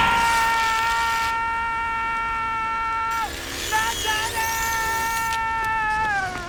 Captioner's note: screaming Continues